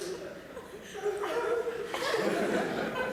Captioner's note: whimpering